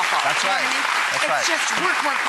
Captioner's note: applause